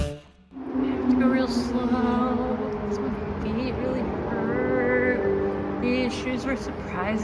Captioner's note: sing-song